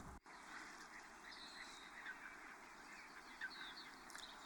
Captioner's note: birds chirping